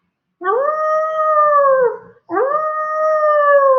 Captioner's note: Wolfie howls